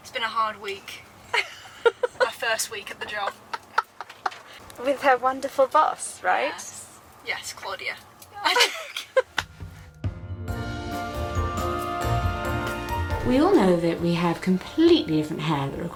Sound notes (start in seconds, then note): 1.2 laughing; 3.8 laughing; 8.4 laughing heartily; 10.1 gentle upbeat music